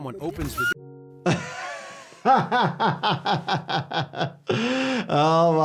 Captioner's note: laughing